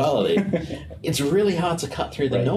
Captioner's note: laughs